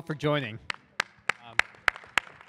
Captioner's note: applause